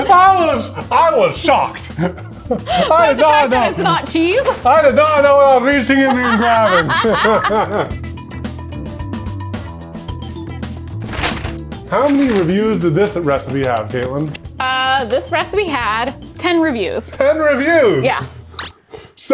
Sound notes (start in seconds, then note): 6.5 laughing; 8.3 upbeat music